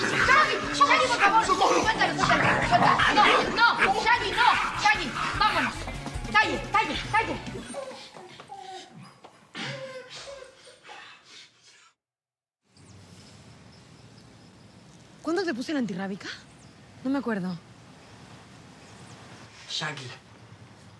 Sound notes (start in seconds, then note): 13.2 birs chirping